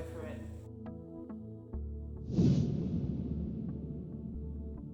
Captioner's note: logo whooshing